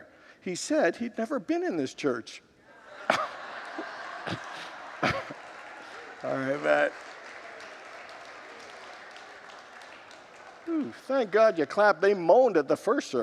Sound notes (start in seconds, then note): 2.7 congregants laugh and applaud